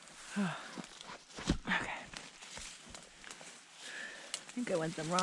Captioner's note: rustling, sighing